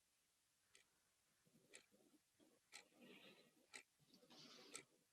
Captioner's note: clock ticking